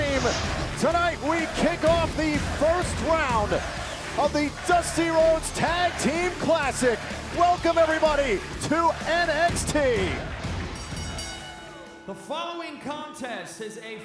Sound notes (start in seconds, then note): 10.6 bell ringing